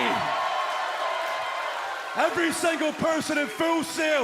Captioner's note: cheers and applause